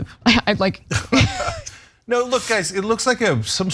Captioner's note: laugh